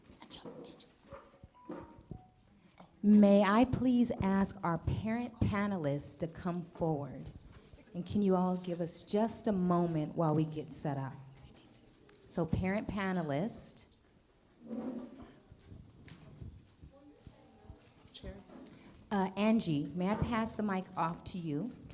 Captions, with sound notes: (whispers) May I please ask our Parent Panelists to come forward. And, can you all give us just a moment while we get set up? So, Parent Panelists. Angie, may I pass the mic off to you?